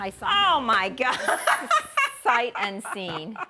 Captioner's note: laughing